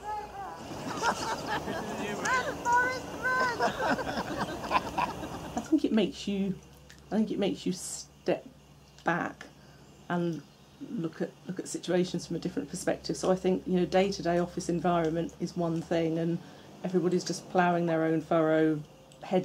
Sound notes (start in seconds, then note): 0.8 woman laughing; 3.6 group laughs